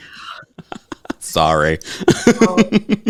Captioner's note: laughing